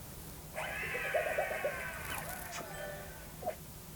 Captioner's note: crowd cheers